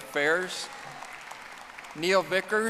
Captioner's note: audience applauding